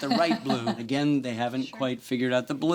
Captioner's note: woman laughs